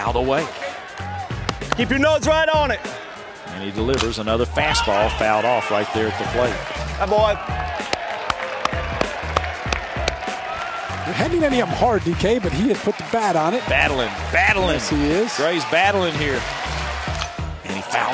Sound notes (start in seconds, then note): 7.6 clapping